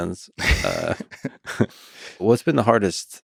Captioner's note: Craig laughs